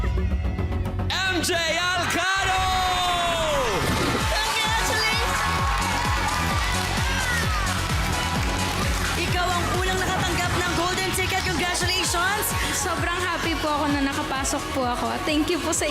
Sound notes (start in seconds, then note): 6.3 applause, cheering